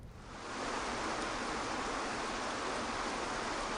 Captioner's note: water flowing